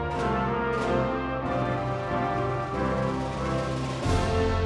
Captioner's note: crowd cheering